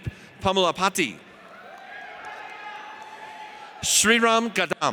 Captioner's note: audience cheers